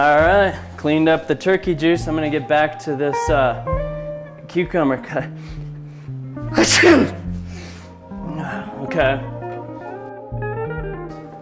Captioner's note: sneezes